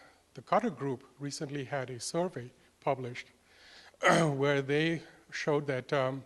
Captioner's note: cough